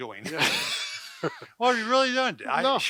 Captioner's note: both laugh